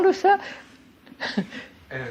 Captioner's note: laughs